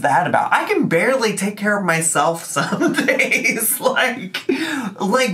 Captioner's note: laughs